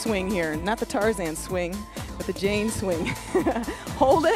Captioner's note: laughs